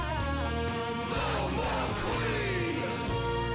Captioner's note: crowd